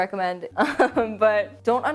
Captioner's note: laughing softly